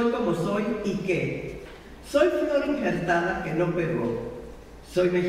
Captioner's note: speaking in foreign language